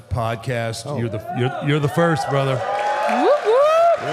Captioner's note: audience applauding